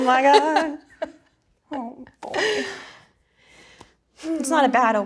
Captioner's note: laughing